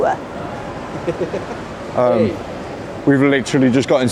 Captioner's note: chuckling